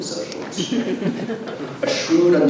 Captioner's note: audience laughs